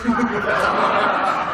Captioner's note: laughter